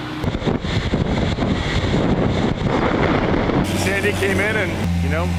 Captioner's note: sound of wind